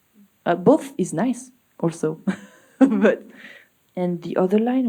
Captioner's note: laughs